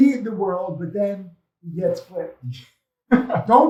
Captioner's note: speaks faintly